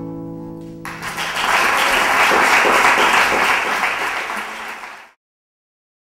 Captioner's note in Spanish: audience clapping